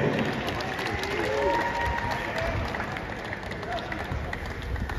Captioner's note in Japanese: 拍手